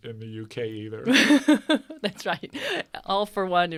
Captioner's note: laughs